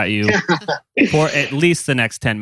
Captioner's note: laughs